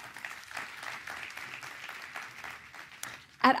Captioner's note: applause